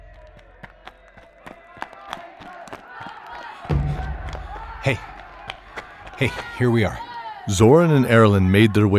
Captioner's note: panting from a light jog but hushed